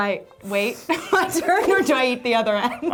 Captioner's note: laughing